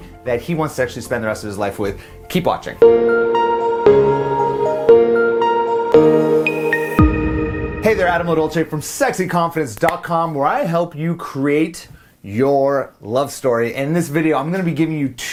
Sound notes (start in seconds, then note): 2.8 upbeat music; 7.0 whooshing